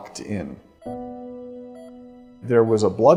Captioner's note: heartbeat monitor sound